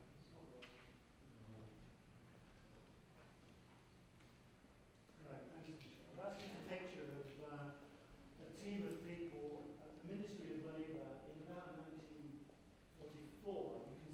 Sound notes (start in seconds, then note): none